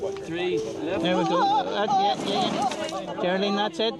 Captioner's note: moans